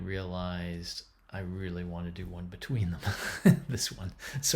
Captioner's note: laughing